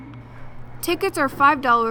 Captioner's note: laughing